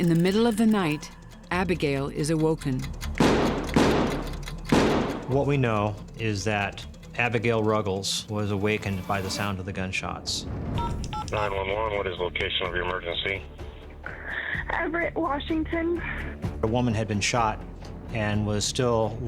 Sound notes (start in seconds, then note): 4.7 gunshots